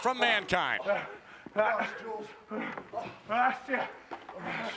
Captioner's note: wrestlers grunting